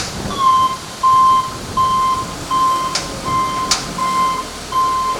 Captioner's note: telehandler beeping